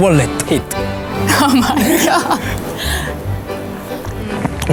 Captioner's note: laughs